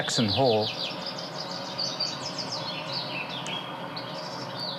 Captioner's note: birds chirping